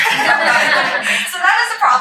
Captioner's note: all laughing